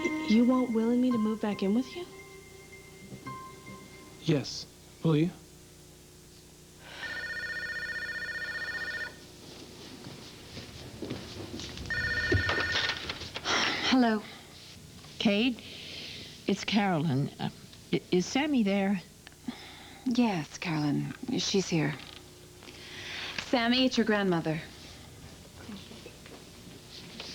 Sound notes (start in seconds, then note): 6.8 telephone rings; 11.7 ring